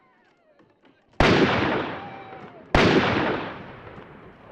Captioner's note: gun firing